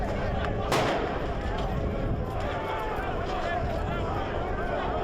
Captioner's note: firework exploding